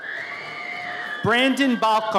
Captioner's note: audience cheers